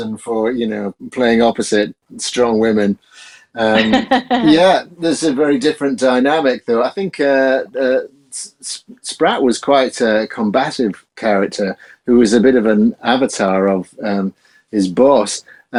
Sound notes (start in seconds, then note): 3.5 laughs